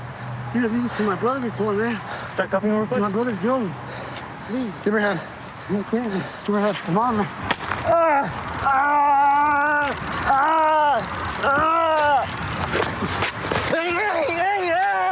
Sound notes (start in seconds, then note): 7.4 taser gun crackles